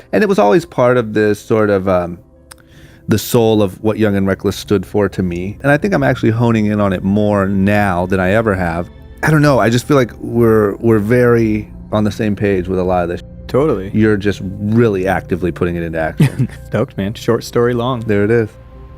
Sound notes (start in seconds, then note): 16.1 laughing